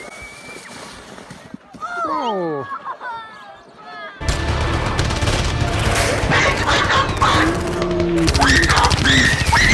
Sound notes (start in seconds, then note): 4.2 gunshots rattling; 6.7 person screaming